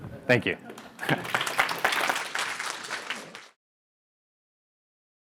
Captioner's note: crowed clapping